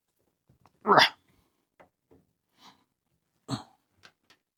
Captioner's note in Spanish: Grunting